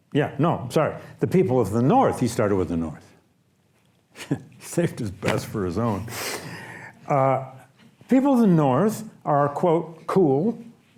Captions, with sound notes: yeah, no, I'm sorry. "The people of the North." He started with the North. (laughs) Saved his best for his own. People of the North are, quote, "cool."